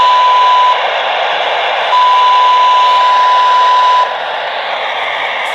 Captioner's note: applause